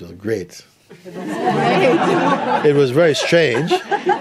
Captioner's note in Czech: smích